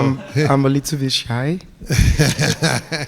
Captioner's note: laughs; audience laughing